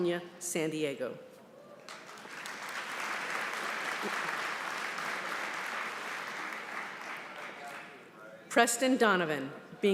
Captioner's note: applause